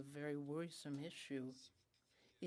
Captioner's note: speaking French